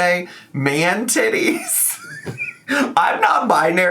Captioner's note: laughs